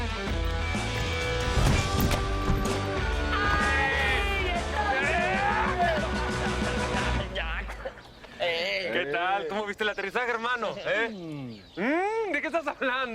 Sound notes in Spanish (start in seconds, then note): 3.3 Gritos y exclamaciones